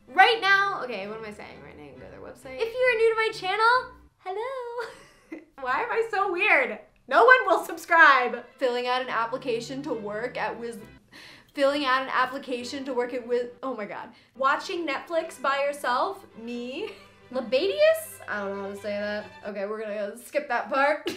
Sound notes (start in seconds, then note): 4.6 laughing